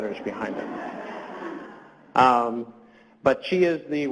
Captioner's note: audience laughs